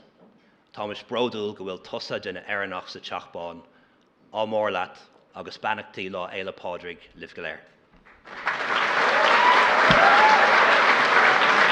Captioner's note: speaks Irish